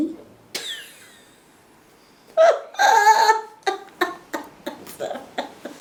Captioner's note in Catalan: Riure